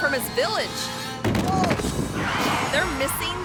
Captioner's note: body thuds; tires screeching